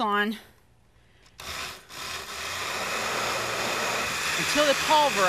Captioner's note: blender buzzes